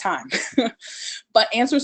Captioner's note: laughs